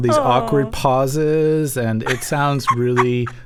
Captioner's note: laughter